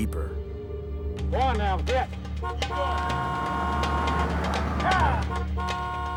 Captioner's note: horn honking